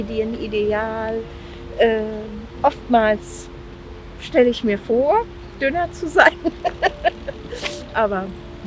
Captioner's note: laughs